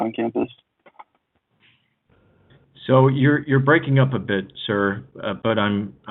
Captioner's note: speaking away from microphone